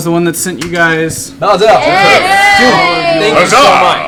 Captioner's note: cheering